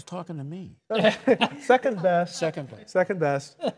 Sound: laughs

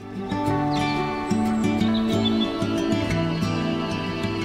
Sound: birdsong; light, upbeat music

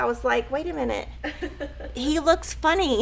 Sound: laughing

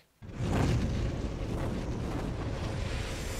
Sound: logo roaring

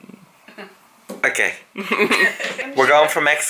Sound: laughs

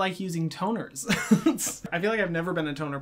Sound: laughs

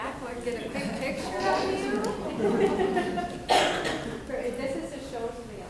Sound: people chattering and laughing

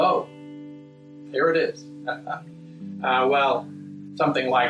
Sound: laughs

